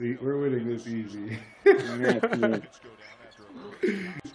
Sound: laughter

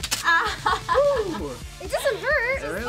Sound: laughs

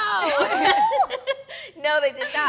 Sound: all laughing

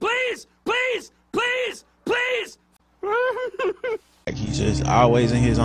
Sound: whimpering

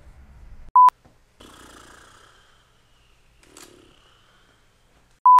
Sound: rasberries

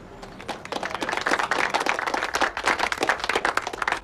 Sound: people clap

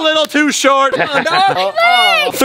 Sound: laughs loudly

